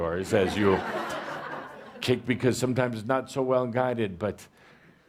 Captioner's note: laughter